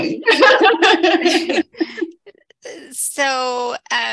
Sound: laughs

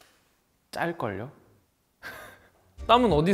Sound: speaks Korean; chuckles; speaks Korean

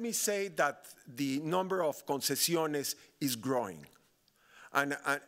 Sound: speaking Spanish

